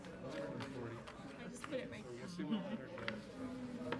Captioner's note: people chattering